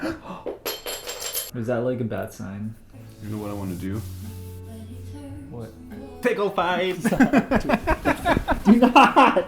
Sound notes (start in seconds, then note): 0.1 glass shatters; 1.1 gasps; 7.0 laughter